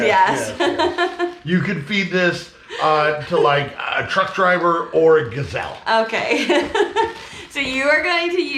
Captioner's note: chuckling